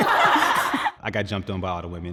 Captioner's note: laughter